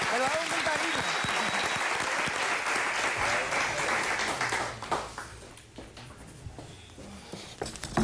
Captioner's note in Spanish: Aplausos